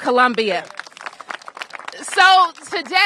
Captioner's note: applause